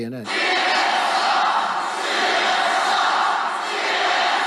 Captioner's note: crowd